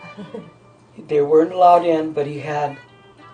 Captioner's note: laughing